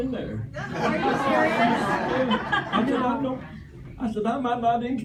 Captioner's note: laughter